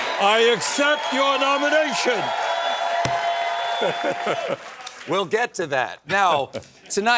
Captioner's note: laughs